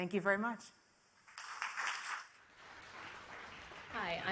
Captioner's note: audience applauds